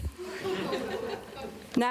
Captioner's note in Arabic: ضحك